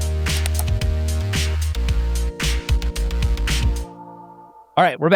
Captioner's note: keyboard clicking